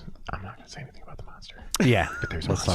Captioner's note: whispering